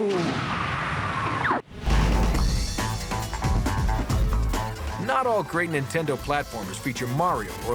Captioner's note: explosion